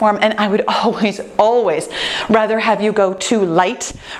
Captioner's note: none